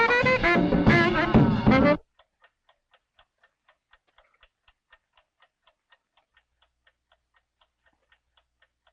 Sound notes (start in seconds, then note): 1.2 clock ticking